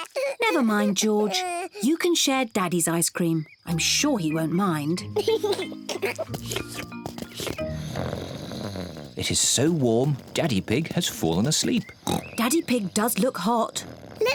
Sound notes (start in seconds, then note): 5.0 giggles; 7.3 snores; 12.2 oinks